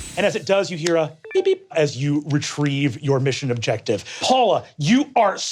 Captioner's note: beeping